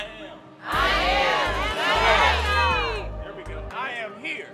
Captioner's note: overlapping shouting